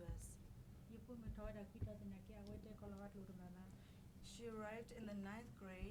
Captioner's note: speaking in foreign language